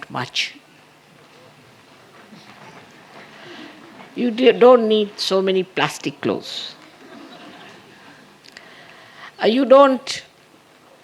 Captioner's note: laughter